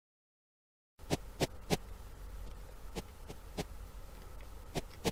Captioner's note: shuffling sound